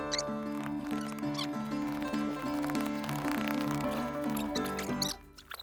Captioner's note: laughs